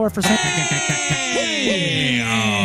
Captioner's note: all Cheering